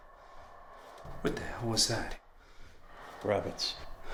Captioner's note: eerie wind